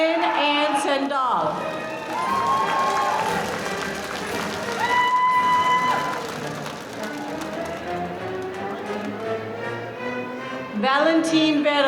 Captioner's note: applause